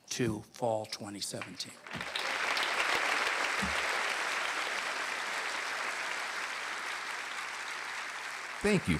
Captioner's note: applause